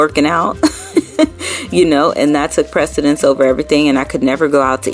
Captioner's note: laughing